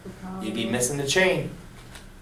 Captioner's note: voiceover